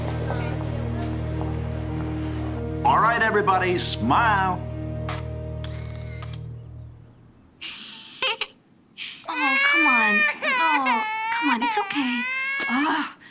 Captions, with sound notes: All right, everybody. Smile! (CAMERA CLICKS) (CRYING) Oh, come on. Oh, come on. It's okay. Oh!